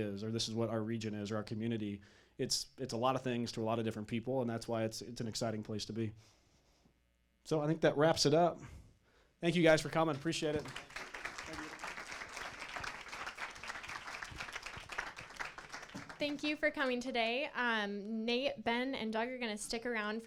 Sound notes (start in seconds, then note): 9.7 applause; 16.3 voiceover